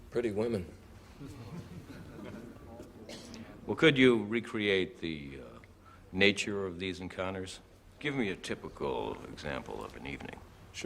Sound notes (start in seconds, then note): 2.7 onlookers chuckle